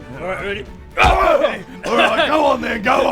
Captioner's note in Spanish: bam